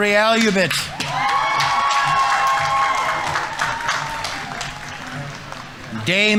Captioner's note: audience applauding; audience members cheering